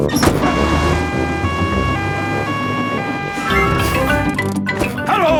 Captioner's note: siren wailing